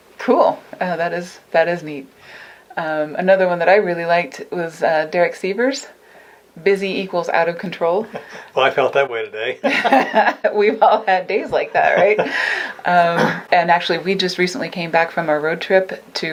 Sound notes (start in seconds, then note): 7.7 laughs; 9.6 laughter